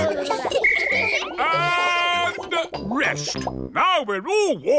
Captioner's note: all laughing and vocalizing; blows whistle